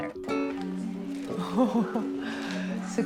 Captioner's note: laughs